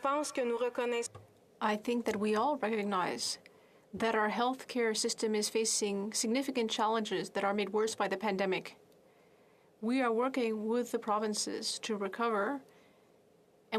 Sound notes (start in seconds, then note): 4.5 speaking French